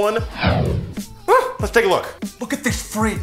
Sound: impressed noise

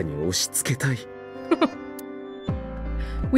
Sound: chuckles

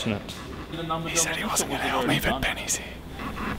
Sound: whispers

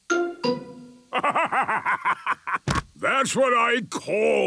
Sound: bursting laughter

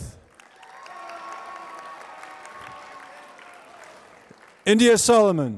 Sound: applause

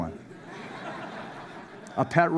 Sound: laughter

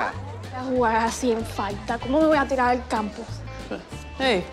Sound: Esti speaks in Spanish

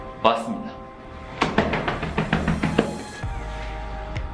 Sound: clap clap clap

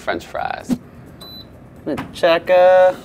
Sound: oven beeps

